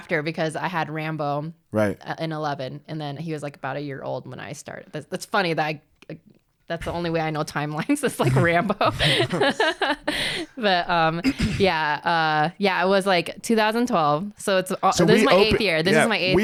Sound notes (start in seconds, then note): 8.0 laughs